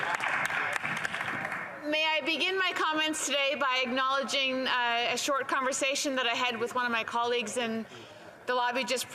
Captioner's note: applause